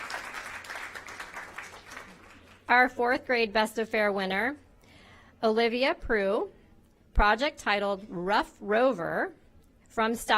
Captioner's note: applause